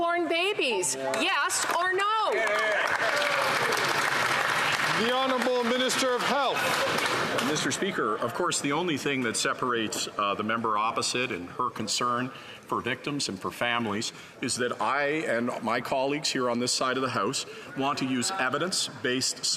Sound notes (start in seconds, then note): 8.4 some Applause